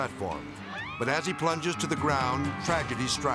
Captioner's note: people screaming